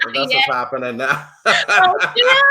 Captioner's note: laughs